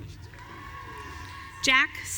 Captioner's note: audience cheering